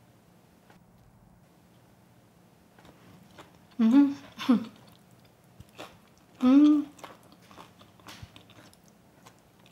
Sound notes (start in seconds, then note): 3.9 laughs; 4.1 crunches